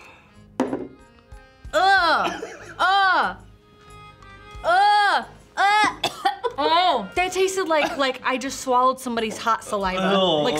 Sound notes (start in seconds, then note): 5.6 coughs